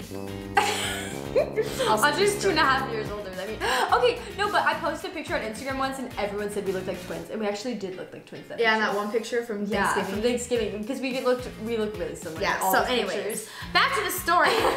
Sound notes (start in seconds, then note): 0.0 low notes indicating disappointment; 3.6 gasps; 14.5 laughs